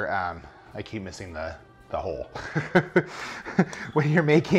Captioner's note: laughs